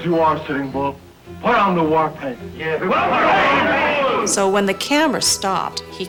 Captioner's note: men screaming